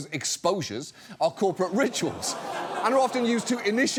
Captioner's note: audience laughs